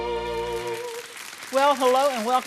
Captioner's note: audience applauding